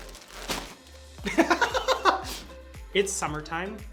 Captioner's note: laughs